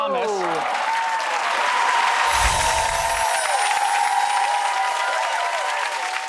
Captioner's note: audience clapping and cheering